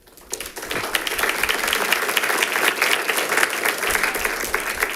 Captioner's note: audience applauding